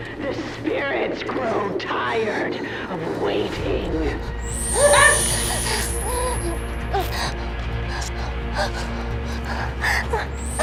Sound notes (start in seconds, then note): 4.5 electricity buzzes; 4.6 Kira groaning; 6.9 tense suspenseful music